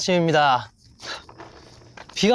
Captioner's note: trudge trudge